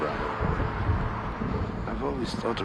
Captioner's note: thunder rumbling